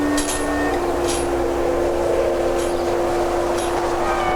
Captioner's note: dramatic music; wind howling